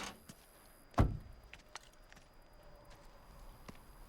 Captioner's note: door thuds